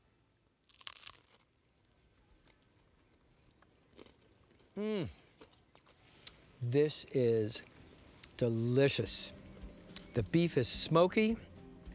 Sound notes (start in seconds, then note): 0.6 bites into steak and bread